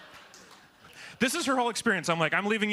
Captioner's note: laughter